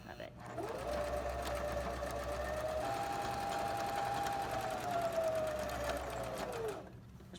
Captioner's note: sewing machine hums